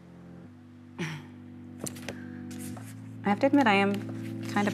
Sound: chuckles

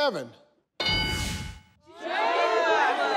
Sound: bell dings

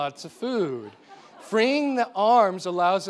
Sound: audience laughing

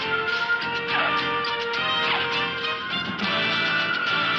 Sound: tires screeching

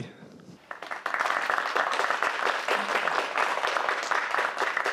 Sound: audience applause

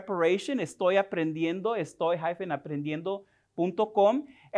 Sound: speaking spanish

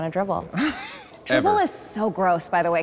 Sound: laughing

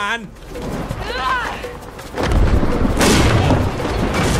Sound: woman yells

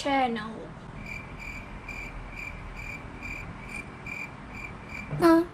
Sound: krik krik kruk kruk krukkk krikkk

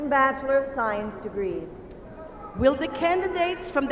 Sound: cheering

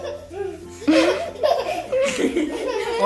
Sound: laughing

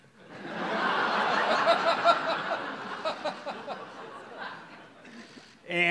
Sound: audience laughs

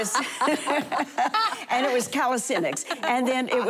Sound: laughter

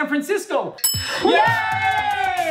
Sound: bell dings; clapping

